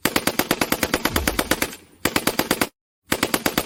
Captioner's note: machine Gun Fire; machine Gun Fire